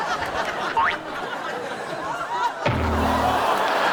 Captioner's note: boing; crash